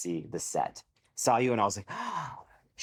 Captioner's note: gasps